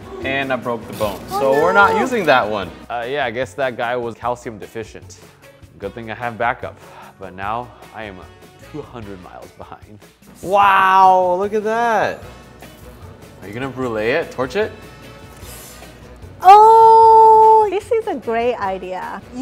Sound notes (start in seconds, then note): 15.3 inhales sharply